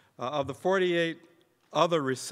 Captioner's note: none